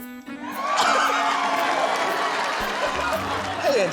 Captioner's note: cheering, applause